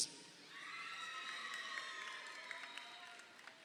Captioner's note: crowd cheering